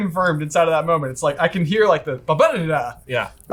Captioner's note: syllable sounds